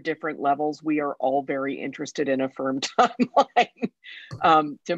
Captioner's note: laughs